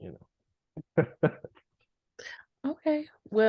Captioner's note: laughs